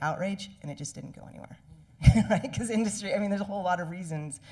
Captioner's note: chuckling